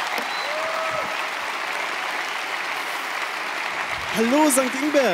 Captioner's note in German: Applaus, Jubel